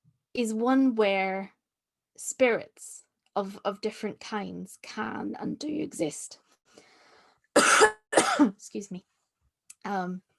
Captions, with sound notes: is one where spirits of different kinds can and do exist. [Coughs.] Excuse me.